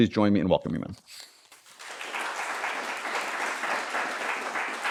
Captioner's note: applause